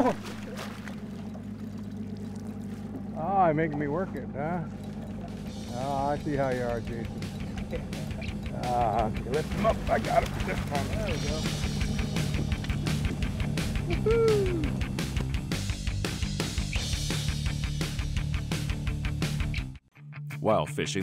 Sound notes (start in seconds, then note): 7.3 chuckling; 13.7 whooping